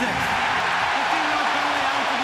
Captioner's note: cheering